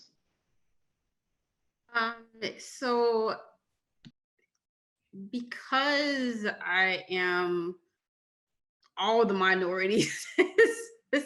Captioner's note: laughter